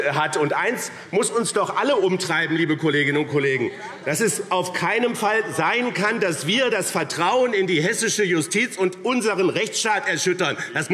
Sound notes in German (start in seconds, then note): none